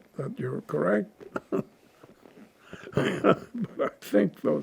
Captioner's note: laughing